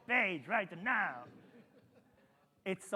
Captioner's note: attendees laughing